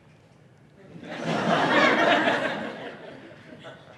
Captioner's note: laughs